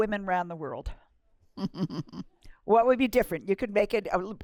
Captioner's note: laughter